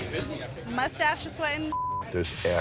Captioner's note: beep